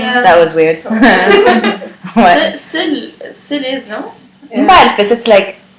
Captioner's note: laughter